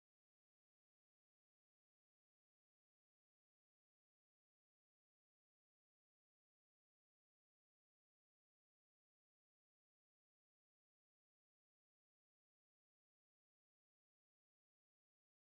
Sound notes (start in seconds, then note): none